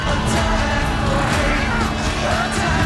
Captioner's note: battle cries